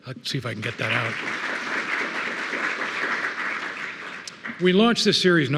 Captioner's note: attendees applauding